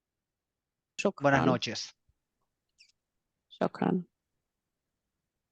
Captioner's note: speaking foreign language